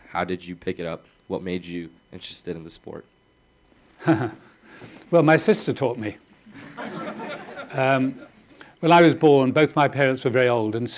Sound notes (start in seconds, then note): 4.0 laughing; 6.5 audience laughing